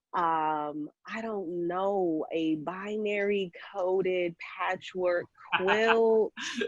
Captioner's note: laughing